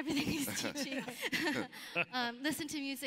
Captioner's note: laughs